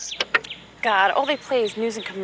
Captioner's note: click